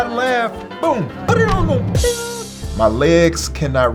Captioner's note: joyful music; Spice imitates drum sounds